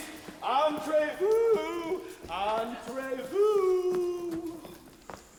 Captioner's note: Frosch speaks foreign language